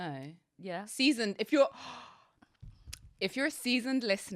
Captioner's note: gasps